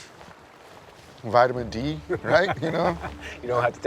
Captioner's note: Baratunde laughs